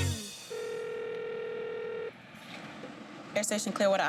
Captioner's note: phone ringing